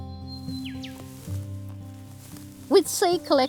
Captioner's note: birds calling; footsteps through scrub